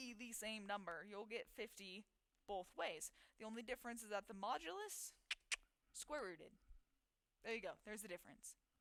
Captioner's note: clicks tongue